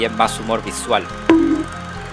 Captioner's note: bonk